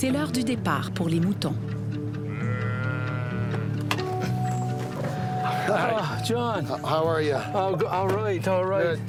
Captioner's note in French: bêlements